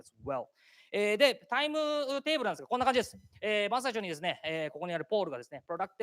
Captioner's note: speaking japanese